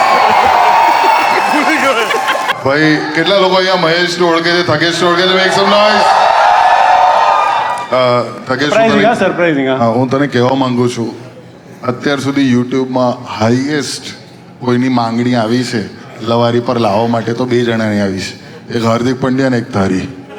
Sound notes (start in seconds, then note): 0.0 crowd applauding; 5.2 crowd applauding